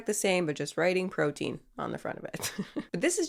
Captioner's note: laughs